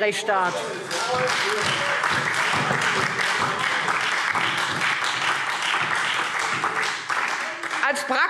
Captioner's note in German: Lebhafter Beifall Freie Demokraten, SPD und DIE LINKE